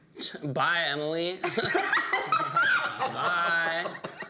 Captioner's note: all laughing